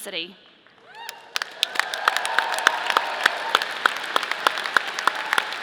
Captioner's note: audience applauding